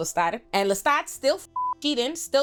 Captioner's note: beep